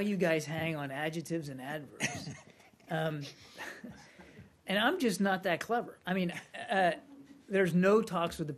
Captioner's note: laughter